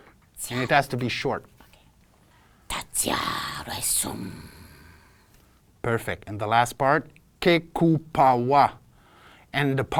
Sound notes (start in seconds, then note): 0.0 alien sounds; 3.0 alien sounds